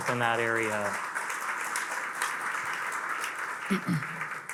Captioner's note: attendees applauding